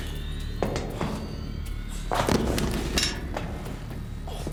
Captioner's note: whirring sounds